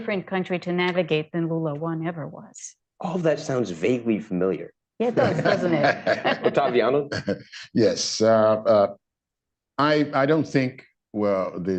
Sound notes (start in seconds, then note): 5.1 laughter